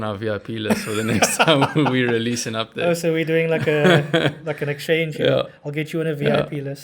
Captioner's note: laugh